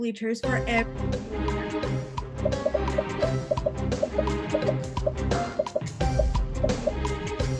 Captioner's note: popping; upbeat music